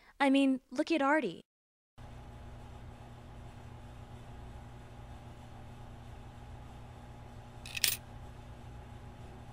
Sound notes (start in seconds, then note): 7.6 coin clinks in machine